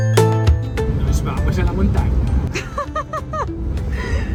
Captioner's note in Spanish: risas